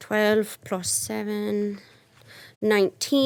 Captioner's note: none